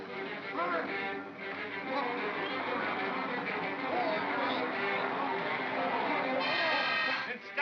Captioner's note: suspenseful music; growling